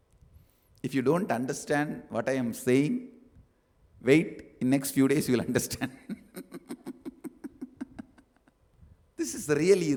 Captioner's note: laughs